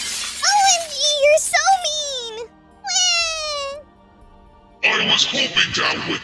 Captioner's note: runs away crying